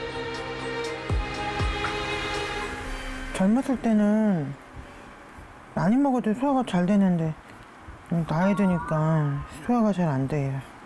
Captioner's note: voiceover